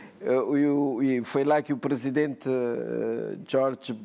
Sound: speaking portuguese

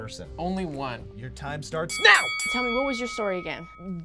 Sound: bell rings

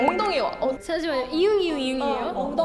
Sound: panicking

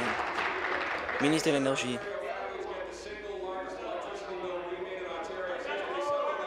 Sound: applause

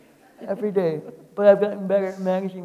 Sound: people laughing

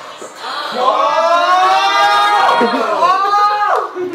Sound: cheering

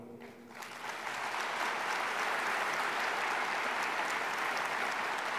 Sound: audience applauding

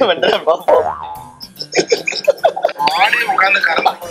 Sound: laughs

